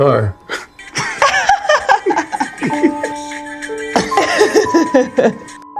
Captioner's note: laughs